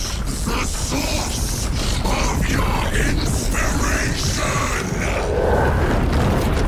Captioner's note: groaning